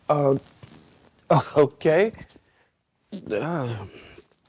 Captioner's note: sighs